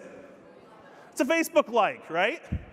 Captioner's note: audience mumbling